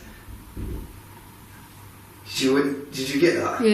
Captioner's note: thudding